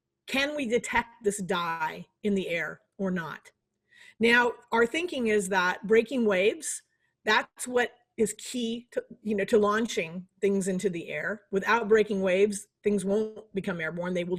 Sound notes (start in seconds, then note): none